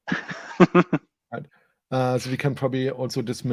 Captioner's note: laughing